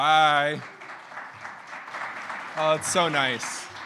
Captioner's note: audience applauding